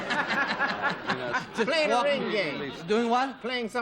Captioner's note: laughter